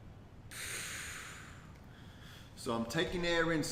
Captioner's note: exhales